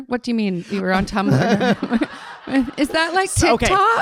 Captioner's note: audience laughing